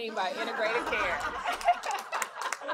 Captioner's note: laughter; applause